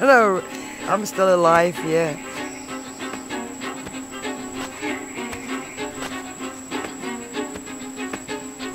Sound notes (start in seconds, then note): 3.8 fast violin music; 3.8 rooster footsteps